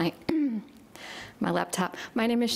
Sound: clears throat

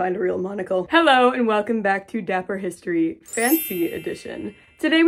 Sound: twinkling sound

